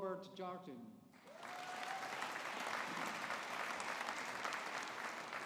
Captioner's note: audience applauding